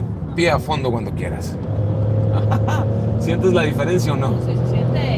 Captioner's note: laughs